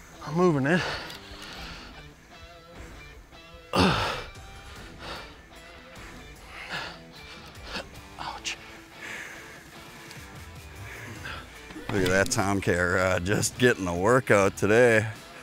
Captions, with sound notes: moving it (grunting) ouch look at that TomCat rod, just getting a workout today